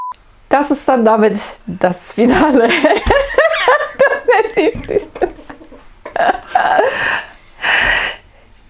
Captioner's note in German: lacht